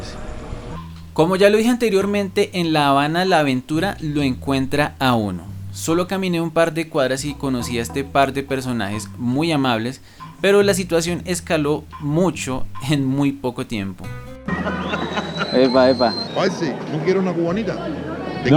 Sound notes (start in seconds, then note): 14.4 laughs